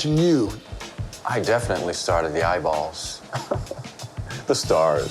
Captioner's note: chuckles